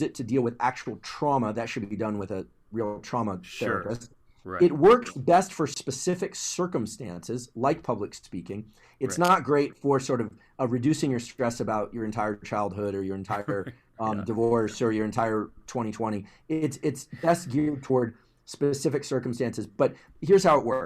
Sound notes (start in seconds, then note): 13.4 laugh